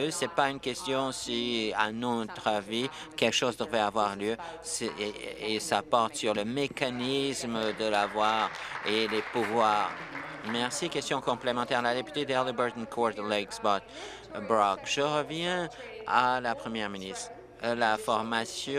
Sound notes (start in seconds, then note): 12.5 applause